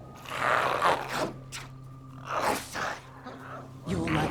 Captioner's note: growls